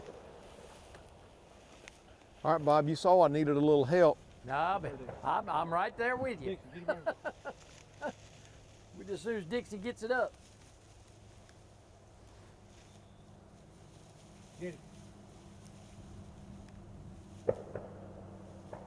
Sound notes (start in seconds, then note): 6.5 laughs